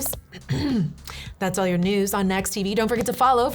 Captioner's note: clears throat